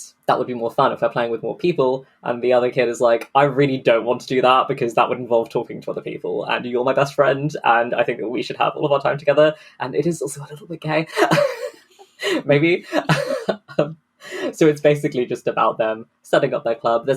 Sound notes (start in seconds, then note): 11.1 laughing